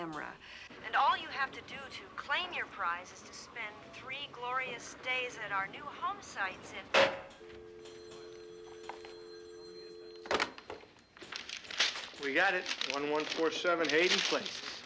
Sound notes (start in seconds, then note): 6.9 slams phone; 7.4 dial tone ringing